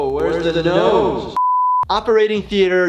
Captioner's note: beep